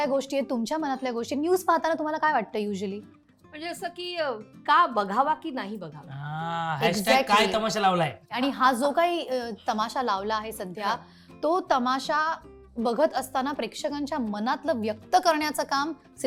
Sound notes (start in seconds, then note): 7.5 commotion